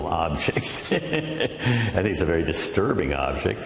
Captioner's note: laughs